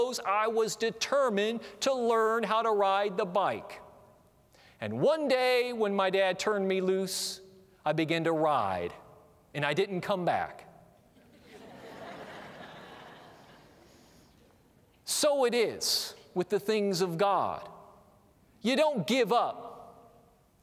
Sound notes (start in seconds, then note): 11.1 laughter